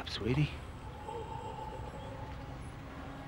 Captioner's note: Bao groans